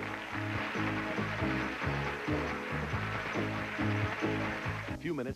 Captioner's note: audience applauding